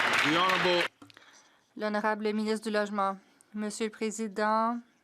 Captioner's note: some Applause